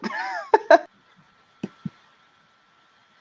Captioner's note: laughing